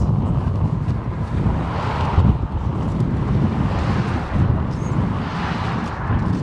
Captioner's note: wind whooshing; car whooshing